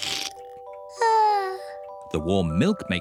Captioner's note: yawns